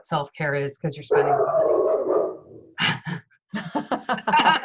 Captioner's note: dog barking; laughter